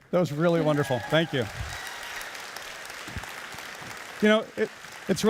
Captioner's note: audience cheering and applauding